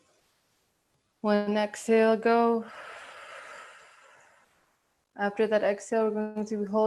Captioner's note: breathing out